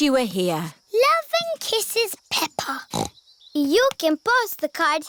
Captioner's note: snorts